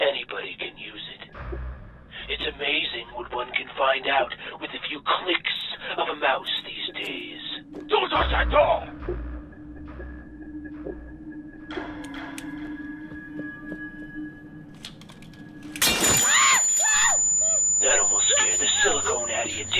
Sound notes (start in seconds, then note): 15.8 window shattering; 16.2 Gessica screaming